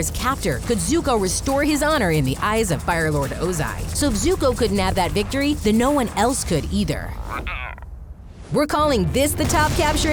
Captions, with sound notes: could Zuko restore his honor in the eyes of Fire Lord Ozai. So if Zuko couldn't have that victory then no one else could either. [croaking] We're calling this the top capture attempt